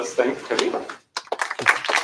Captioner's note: applause